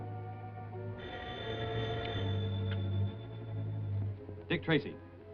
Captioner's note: phone ringing